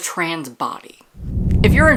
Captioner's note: whoosh